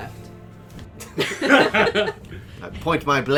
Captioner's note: laughter, as swivels in his seat, pointing an imaginary sword